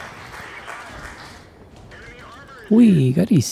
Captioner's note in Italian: Applauso